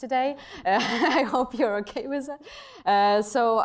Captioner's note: chuckles